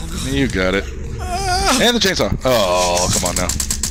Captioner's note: grunt of effort